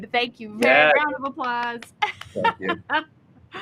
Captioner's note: host claps